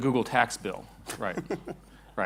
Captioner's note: laughs